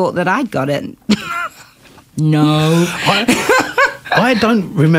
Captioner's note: laughter